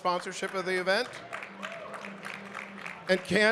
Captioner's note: audience clapping